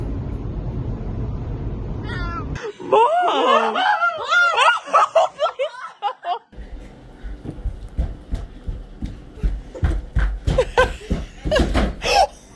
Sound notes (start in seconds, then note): 2.1 meows; 2.9 screams; 5.7 laughter; 10.5 laughing; 11.5 door slams; 12.0 gasps